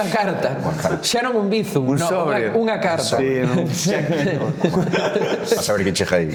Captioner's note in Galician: risas